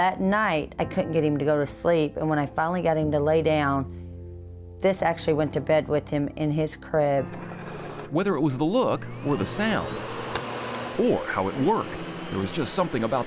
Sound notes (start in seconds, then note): 8.5 vacuum motor humming